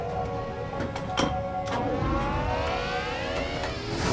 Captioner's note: clanking, whirring